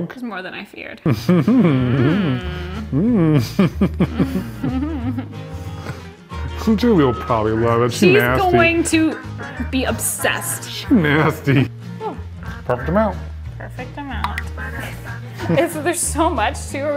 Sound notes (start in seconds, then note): 2.8 both laughing